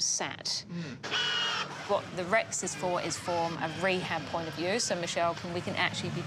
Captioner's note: rex whirrs